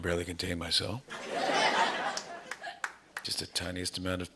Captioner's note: laughter